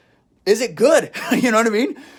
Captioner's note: laughs